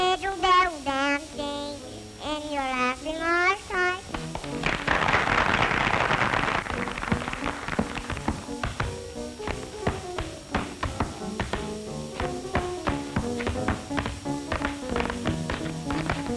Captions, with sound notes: in your laughing Irish eyes. [applause] [tap dancing]